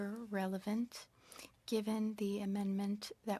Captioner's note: speaking French